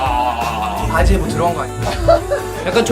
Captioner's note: laughs